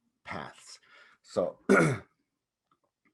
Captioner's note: clears throat